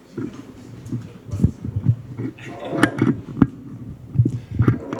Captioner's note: noise of mic adjustment